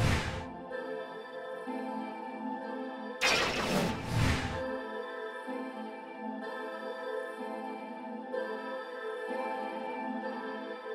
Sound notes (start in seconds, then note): 0.2 upbeat music; 3.3 air swooshing